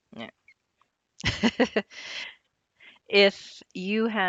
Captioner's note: laughs